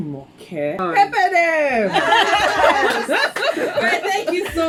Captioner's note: laughs